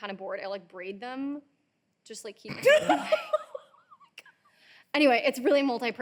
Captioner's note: both laughing